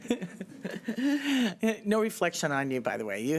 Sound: laughter

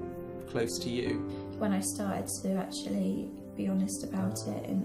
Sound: voiceover

